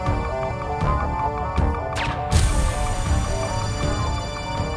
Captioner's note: guns firing